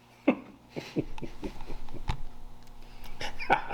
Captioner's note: chuckles